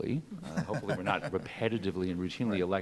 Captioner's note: laughs